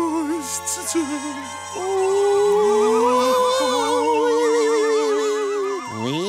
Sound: spooky wailing

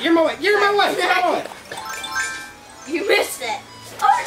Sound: laughs

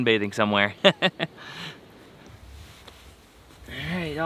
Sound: chuckles

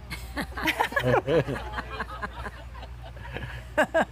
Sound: laughing

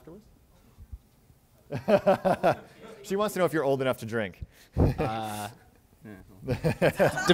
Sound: chuckles

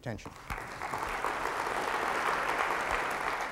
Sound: applause

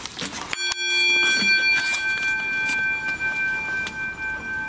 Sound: rich tone ringing

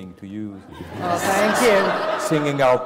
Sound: laugh

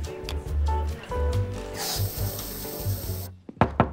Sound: inhaling; knocking

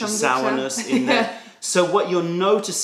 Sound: laughter

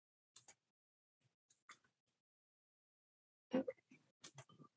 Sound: keyboard clacking

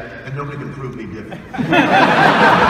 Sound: audience laughs

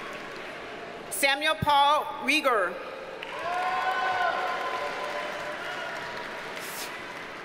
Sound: audience cheers and applauds

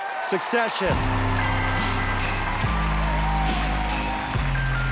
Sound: applause, cheering

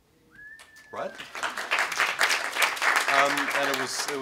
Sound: applause

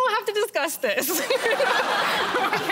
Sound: laughter

